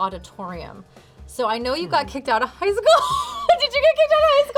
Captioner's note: laughs